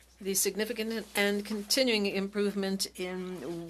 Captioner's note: speaking French